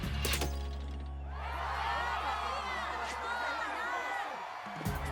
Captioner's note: cheers